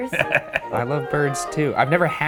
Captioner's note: The Professor cackles; The Professor chuckles